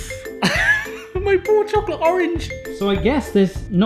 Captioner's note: laughing